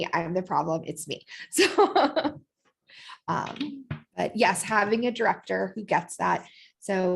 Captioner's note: laughter